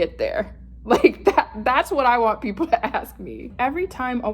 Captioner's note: chuckles